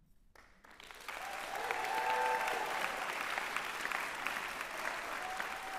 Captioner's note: applause